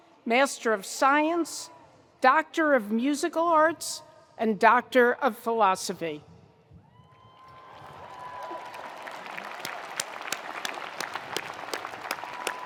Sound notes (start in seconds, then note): 7.0 attendees cheering; 7.4 attendees applauding